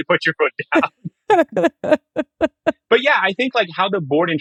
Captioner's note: laughing